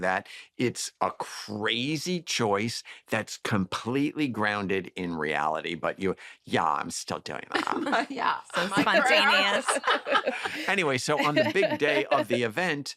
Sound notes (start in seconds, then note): 5.7 valley girl accent; 8.5 laughter